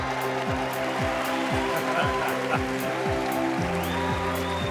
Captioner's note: applause